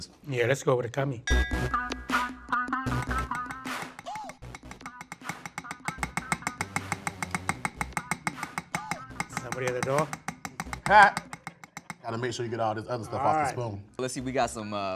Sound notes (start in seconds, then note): 4.4 spoon tapping bowl